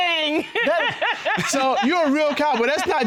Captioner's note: laughing